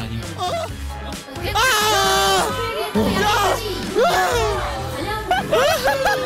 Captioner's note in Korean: 곡소리 듀엣